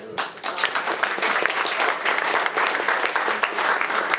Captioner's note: attendees applauding